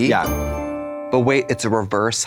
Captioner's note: bright chime